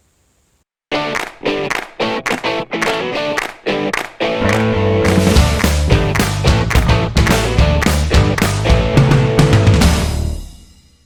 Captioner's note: claps